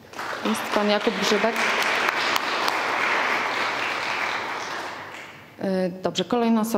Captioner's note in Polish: oklaski